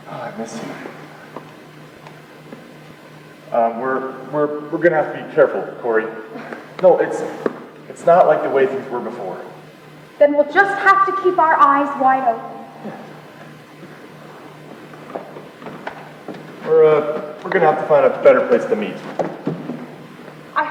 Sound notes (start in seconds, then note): 6.3 sighs dismissively